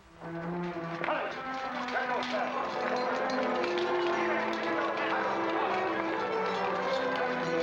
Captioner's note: soldiers barking orders